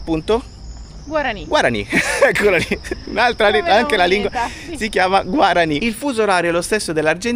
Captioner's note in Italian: risate